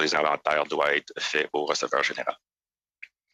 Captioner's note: speaking French